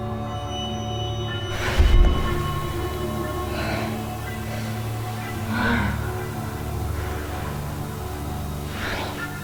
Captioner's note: Ashley breathes heavily